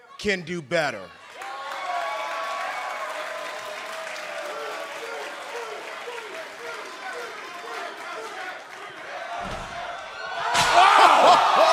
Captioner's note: crowd cheering